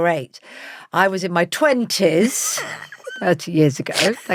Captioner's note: laughs